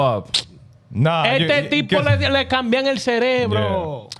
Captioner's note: speaking In Foreign Language